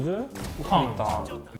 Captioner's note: bang